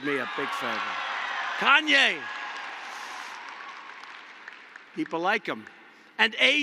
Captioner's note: applause